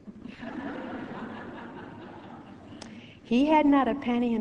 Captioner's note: audience laughing